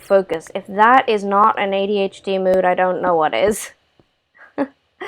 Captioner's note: laugh